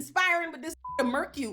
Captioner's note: beep